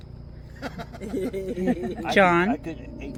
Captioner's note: people laughing